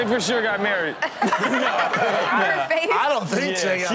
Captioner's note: Chanel and audience laughing